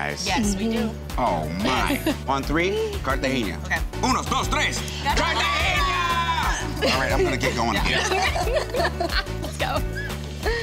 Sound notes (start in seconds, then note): 6.8 laughter